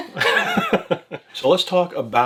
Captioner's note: both laughing